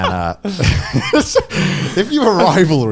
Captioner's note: laughing